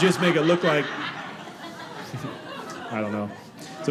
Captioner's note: audience laughing